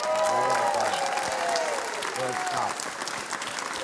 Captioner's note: cheering, applause